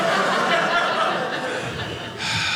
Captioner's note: audience laughing